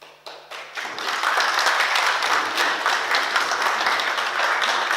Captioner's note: oklaski